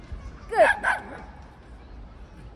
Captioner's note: another dog barking